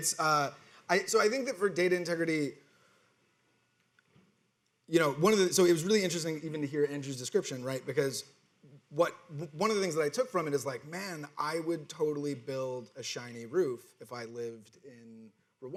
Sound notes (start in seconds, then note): none